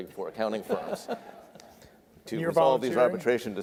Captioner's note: audience laughs